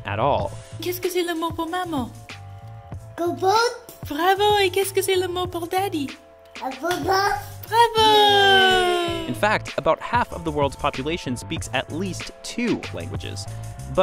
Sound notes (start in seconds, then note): 0.5 speaking French; 7.7 everyone cheering